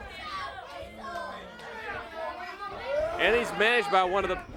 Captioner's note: crowd chatter